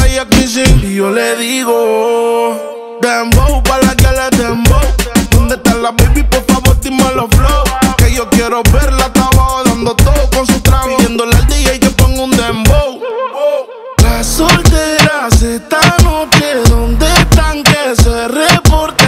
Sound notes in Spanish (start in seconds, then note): 12.8 Woo, woo